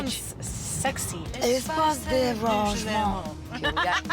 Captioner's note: speaking French; laughing